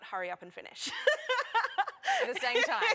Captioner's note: laughter